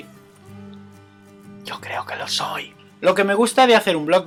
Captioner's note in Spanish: susurrando